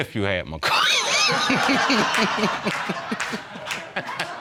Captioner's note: laughing